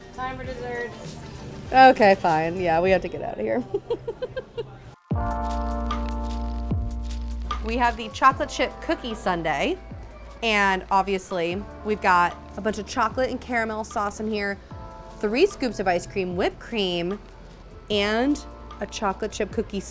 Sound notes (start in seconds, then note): 3.6 laughs; 5.3 chill music